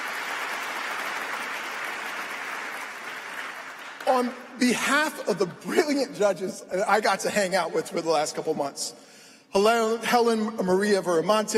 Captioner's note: applause